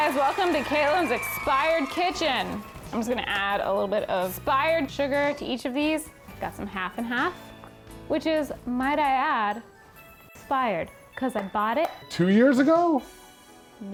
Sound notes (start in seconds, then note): 0.0 audience cheering; 0.1 light music